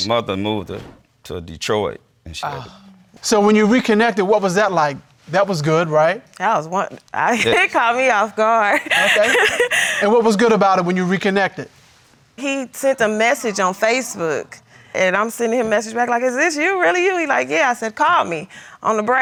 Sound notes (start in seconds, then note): 8.7 laughing